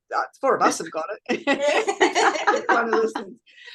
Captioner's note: all are laughing